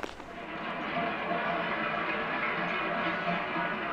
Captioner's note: Cowbells ring in the distance